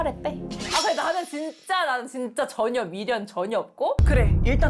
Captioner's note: wavering sound effect